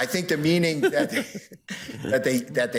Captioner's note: judges laughing